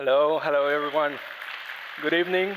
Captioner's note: applause